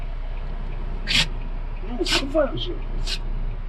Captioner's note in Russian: Зои чихает